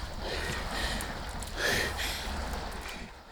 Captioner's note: Dottie gasping; both panting